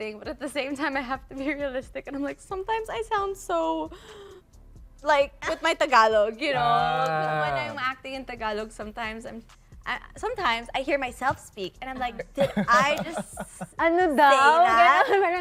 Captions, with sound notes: But at the same time, I have to be realistic. Sometimes, I sound so... [BREATHES DEEPLY] Especially when I'm speaking in Tagalog. Oh! When I'm acting in Tagalog, sometimes, I hear myself speak. And I'm like, "Did I just say that?"